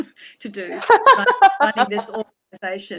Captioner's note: laughs loudly